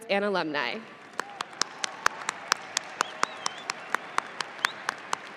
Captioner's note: audience applauding